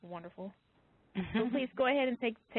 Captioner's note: laugh